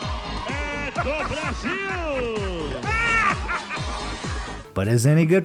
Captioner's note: muffled laughter